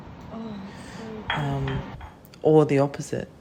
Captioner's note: exhale; china clatter